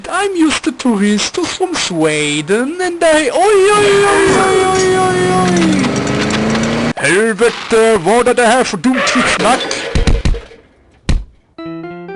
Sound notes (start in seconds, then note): 7.4 in Swedish